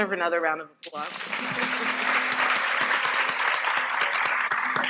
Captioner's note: applause